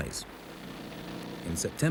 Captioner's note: engine rumbles